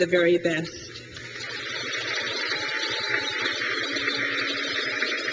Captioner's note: crowd claps